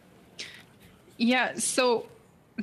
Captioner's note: speaking French